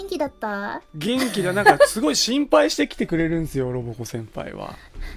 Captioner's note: Roboco laughs